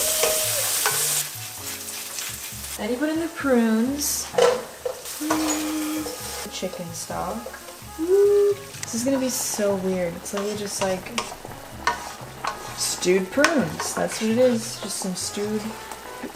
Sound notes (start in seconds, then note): 0.0 screeches; 0.1 food cooking; 6.0 plops